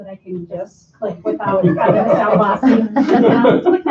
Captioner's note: laughter